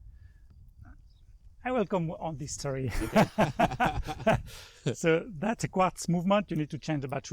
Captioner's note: laughing